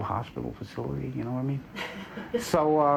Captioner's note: chuckles